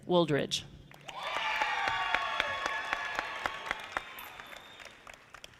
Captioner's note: audience applauding